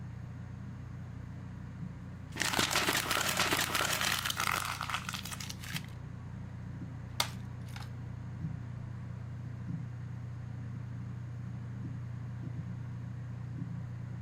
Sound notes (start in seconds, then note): 2.3 paper tears